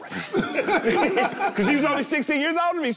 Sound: all laugh

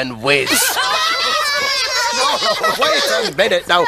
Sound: laughing

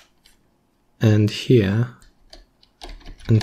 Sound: typing

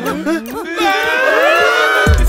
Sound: crying

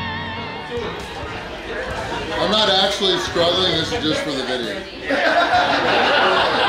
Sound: crowd laughs

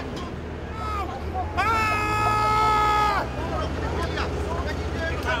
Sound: all shouting

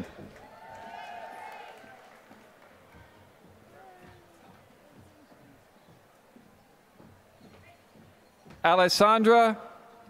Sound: applause

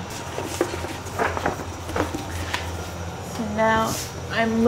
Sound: paper rustling

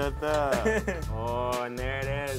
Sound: laughs

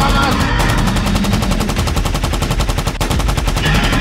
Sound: machine guns firing

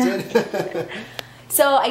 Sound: laughing

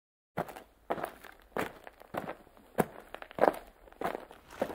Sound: crunching footsteps

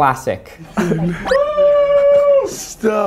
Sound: cheering

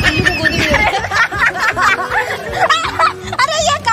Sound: loughing

